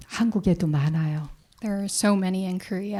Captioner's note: speaking in Korean